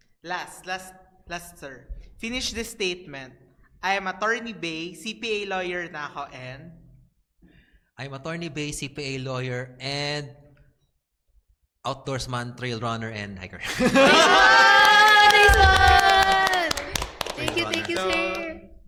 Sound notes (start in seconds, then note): 13.9 applause